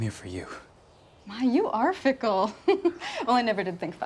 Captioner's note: laughs